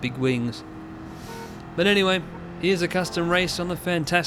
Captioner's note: nose inhale